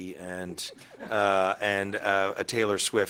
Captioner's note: attendees laughing